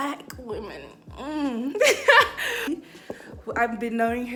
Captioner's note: laughing